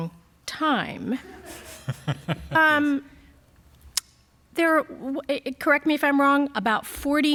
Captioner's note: laughter